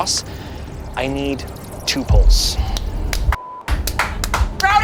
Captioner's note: beep; clapping